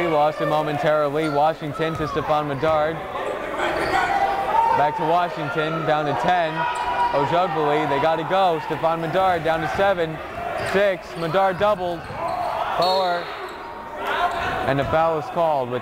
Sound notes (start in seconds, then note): 4.2 yelling